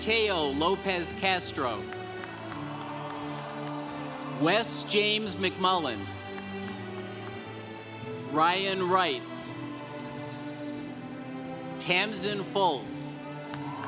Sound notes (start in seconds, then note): 2.4 congregation cheering; 6.5 congregation applauding; 13.1 congregation cheering